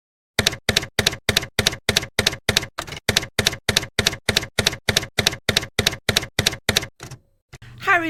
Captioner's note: typewriter keys clacking